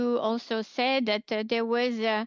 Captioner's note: speaking in French